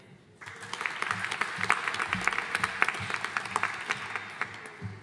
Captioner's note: audience applauding